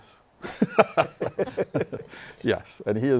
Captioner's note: laughter; laughs